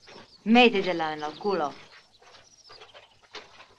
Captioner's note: Spanish spoken audio